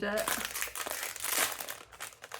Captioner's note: rustling packet